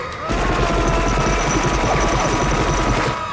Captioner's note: dutch screaming